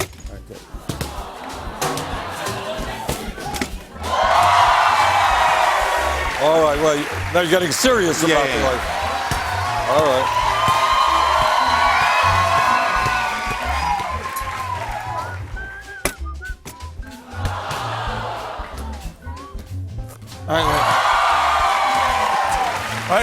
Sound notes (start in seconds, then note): 1.9 audience "aw"s; 4.0 cheers and applause; 11.0 cheers and applause continue; 17.1 audience "aw"s; 20.5 cheers and applause